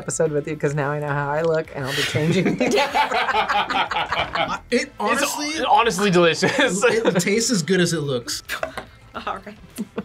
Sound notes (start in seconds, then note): 2.2 both laugh